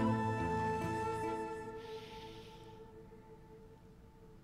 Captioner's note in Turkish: Nefes sesi